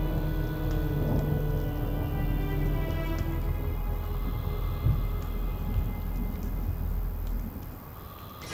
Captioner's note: thunder rumbling